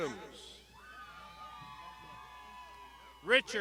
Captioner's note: crowd shouting